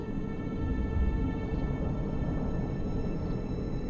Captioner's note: wind whistling